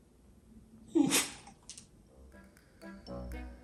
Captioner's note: Oliver sneezes